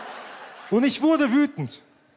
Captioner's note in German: Lachen